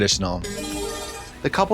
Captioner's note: bright chime